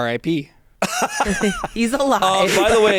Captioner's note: laughs